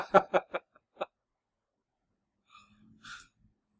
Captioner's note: laughs